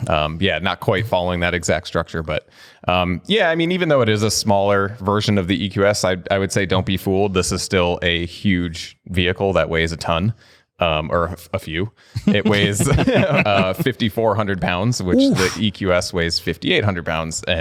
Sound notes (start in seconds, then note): 12.1 laughter